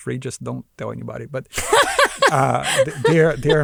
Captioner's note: laughs